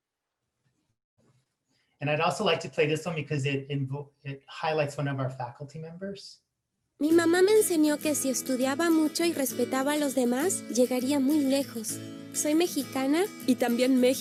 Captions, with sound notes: And I'd also like to play this one because it highlights one of our faculty members. (foreign language)